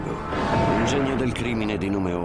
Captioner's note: explosion booming